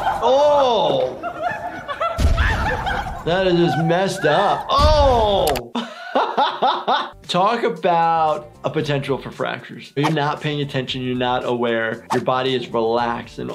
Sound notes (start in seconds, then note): 0.0 laughing